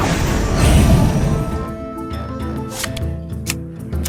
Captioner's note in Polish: wrrrr